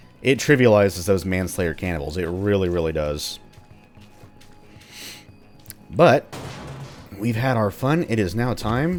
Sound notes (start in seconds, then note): 6.3 smash